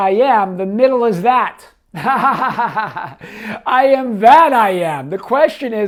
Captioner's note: laughs